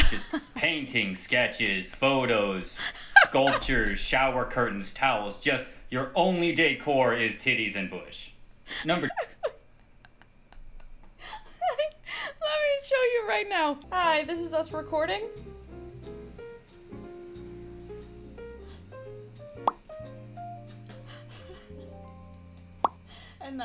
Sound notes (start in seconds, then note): 8.8 laughs hysterically; 18.8 laughs